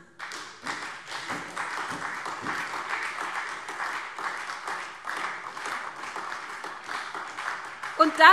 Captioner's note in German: Beifall SPD